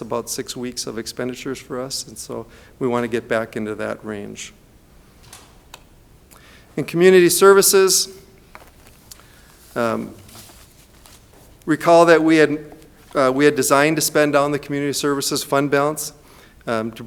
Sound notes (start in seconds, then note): none